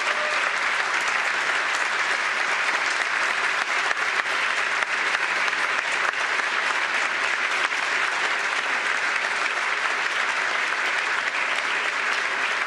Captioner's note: applause